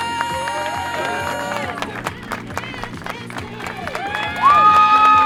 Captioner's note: cheers